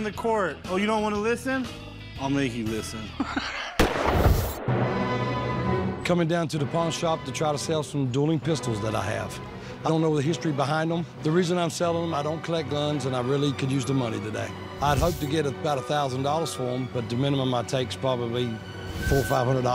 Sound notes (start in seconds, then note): 3.0 Rick laughs; 3.4 dramatic music plays; 3.7 gunshot